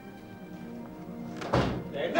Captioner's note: door thudding